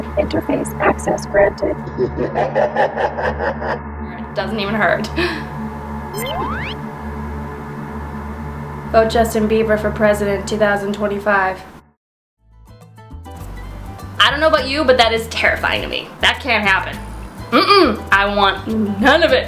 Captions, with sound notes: *Robotic Voice* "Interface Access Granted" "...doesn't even hurt!" *Gasp* *Zapping noise* "Vote Justin Bieber for president 2025" I don't know about you but that is terrifying to me. That can't happen. Nuh uh! I want none of it!